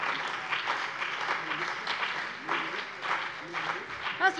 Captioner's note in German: Beifall CDU und BÜNDNIS 90/DIE GRÜNEN